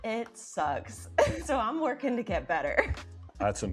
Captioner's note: laughing